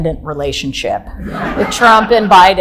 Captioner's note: audience laughing loudly